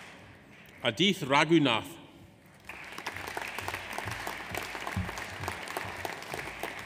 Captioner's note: audience applauds